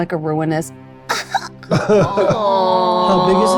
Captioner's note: whimpering cough